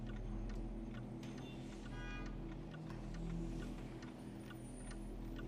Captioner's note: horns honking